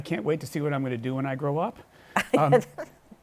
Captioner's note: laughs